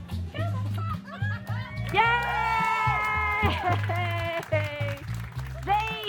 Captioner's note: applause